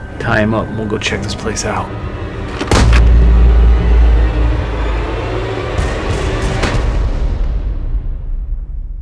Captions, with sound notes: Tie him up and we'll go check this place out. (gun fires) (dramatic music)